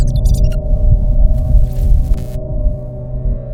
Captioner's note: robot buzzing